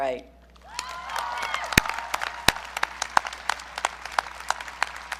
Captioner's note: audience cheering